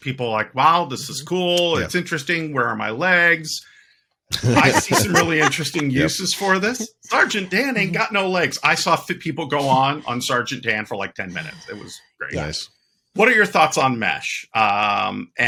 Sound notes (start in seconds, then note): 4.3 both Laughing